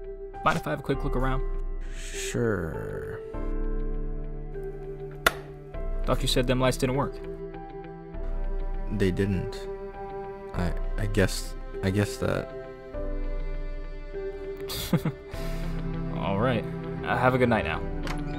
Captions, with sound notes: "Mind if I have a quick look around?" "Sure.." [Light switch flips] "Thought you said them lights didn't work." "They didn't..." "I-I guess - I guess that..." (Chuckles) "Alright... have a good night now."